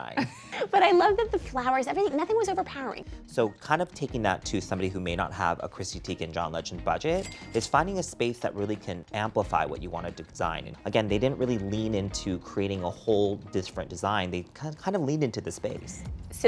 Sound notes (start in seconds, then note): 0.1 chuckles; 7.2 cash register dings